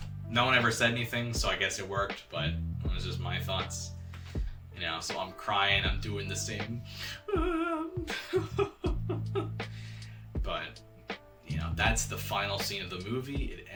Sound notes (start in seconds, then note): 7.3 whimpering